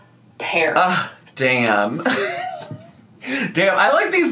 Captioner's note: laughs